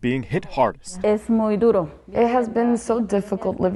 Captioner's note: speaks in Spanish